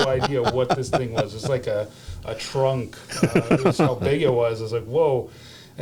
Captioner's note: laughter